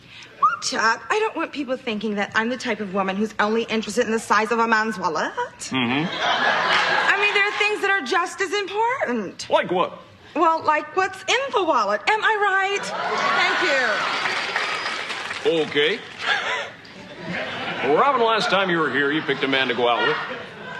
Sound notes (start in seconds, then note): 13.7 Aplausos; 16.9 Risos